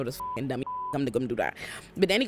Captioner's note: beep